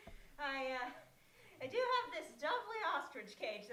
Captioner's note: none